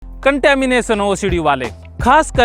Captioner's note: hindi